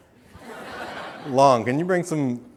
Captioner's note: audience laughing